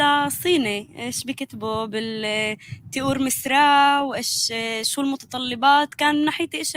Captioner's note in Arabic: لغة أجنبية